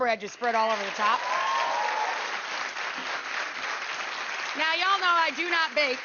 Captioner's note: audience cheering